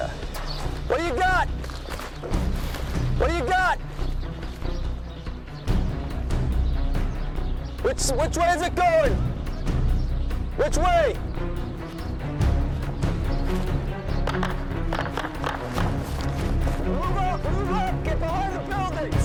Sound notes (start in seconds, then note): 14.3 gunfire